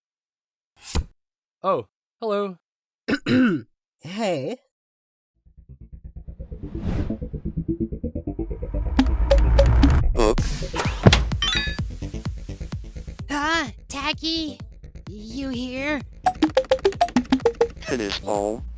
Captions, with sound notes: Oh. Hello. [COUGH] Hey. HUH? Taggy? You here?